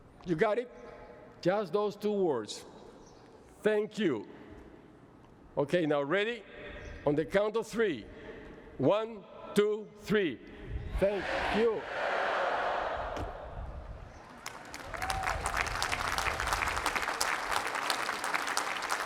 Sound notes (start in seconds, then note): 14.2 applause